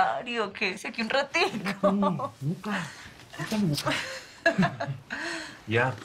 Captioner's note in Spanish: Ríe